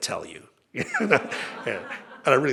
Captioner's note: laughter